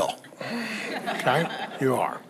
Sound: congregation laughs

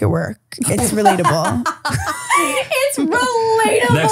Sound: laughing

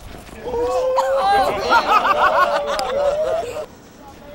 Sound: laughs

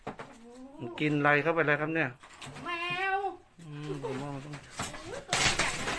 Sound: speaking foreign language

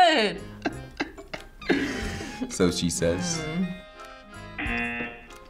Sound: laughs; buzzer rings

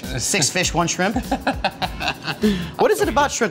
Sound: laughs

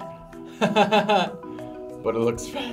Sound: laughs

